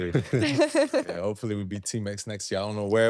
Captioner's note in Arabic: يضحك